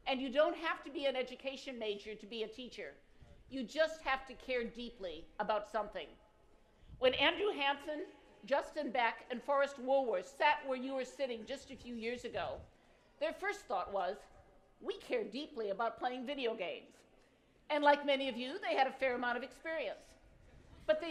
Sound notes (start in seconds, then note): none